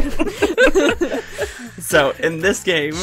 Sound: group laughing

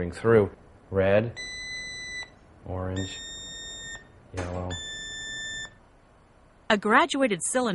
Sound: beep

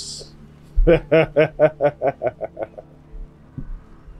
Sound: laughs

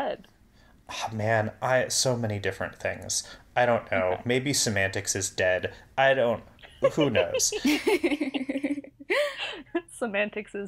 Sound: laugh

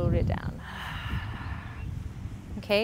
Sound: exhales

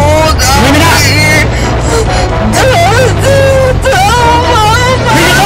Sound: sobs

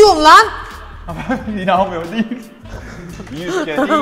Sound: laughs

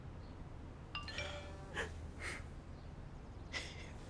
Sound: phone pinging; papa laughing

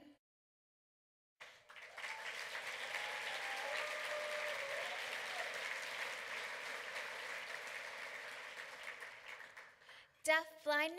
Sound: applause

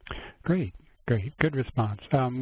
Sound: voiceover

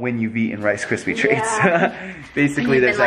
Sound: laughs

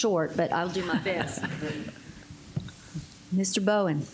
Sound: laughter

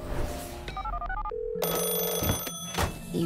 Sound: ringing; dialing

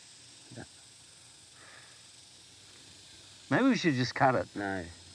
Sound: none

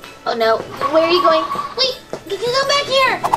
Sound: car wheels accelerating; fast comical whooshes

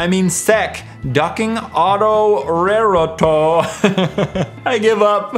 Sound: chuckles

